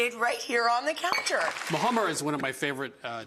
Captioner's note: hands clapping